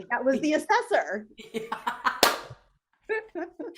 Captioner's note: laughter